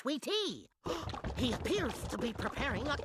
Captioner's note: gasping